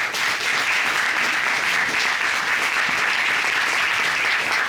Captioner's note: applause